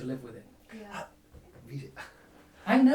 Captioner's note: laughing